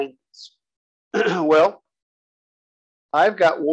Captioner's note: cough